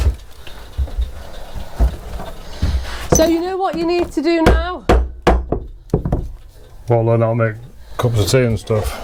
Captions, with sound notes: So you know what you need to do now? (banging) What, like that'll make a couple of tea and stuff?